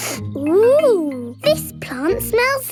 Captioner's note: sniffs